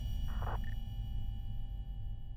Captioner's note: beeping